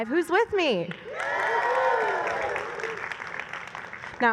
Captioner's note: applause